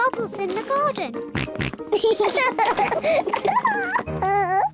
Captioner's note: oinks; both oink and laugh